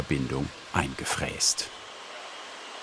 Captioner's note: engine roar